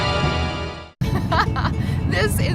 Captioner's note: dramatic note; laughs